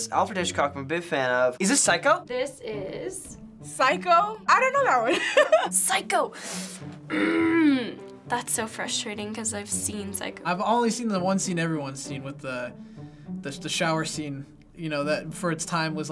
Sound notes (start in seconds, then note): 5.1 laughs; 6.4 inhales sharply and groans